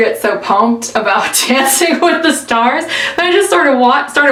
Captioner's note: laughs